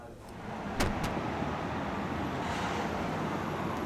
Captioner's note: street noise